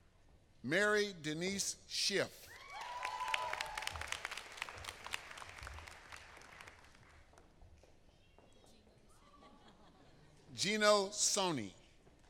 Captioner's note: applause